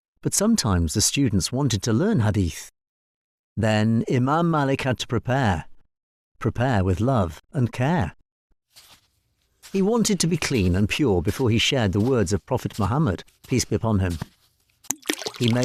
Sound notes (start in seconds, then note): 8.7 soft Footsteps; 14.8 water pouring